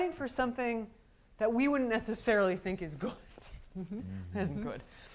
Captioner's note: laughs